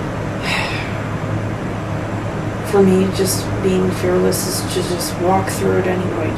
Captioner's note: sighs